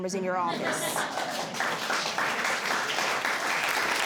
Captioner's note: audience laughs and claps